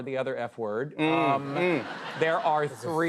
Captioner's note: laughter